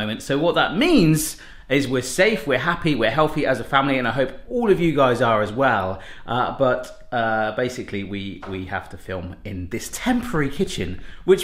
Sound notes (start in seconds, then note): none